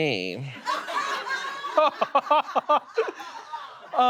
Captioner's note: audience laughs